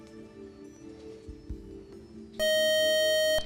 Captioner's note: beep